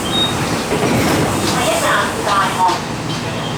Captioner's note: Cantonese